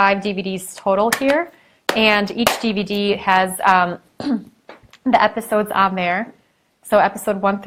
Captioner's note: clears throat